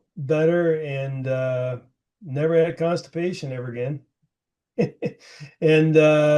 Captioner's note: laughing